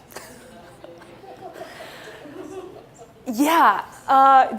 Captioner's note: laughing